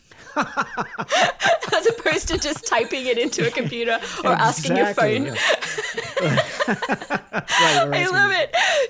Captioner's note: laughs